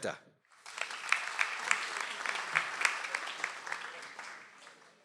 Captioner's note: audience applauds